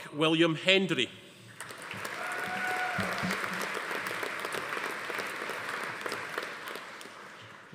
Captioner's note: audience applauding; attendee cheering